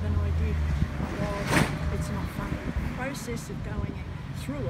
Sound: large vehicle rumbling

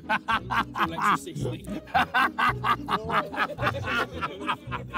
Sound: Ethan laughing

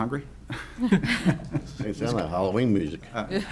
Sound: laughter

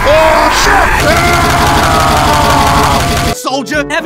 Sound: Soldier hits Heavy with a pan and he screams

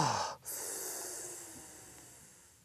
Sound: hisses

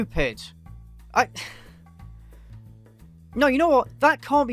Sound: sigh

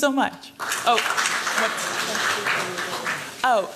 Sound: applause

